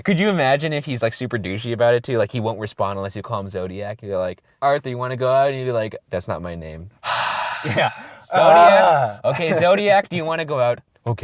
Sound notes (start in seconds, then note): 7.0 heavy sigh; 8.5 voiceover